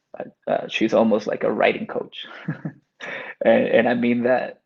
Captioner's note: chuckles